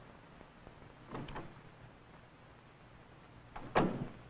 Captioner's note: door opening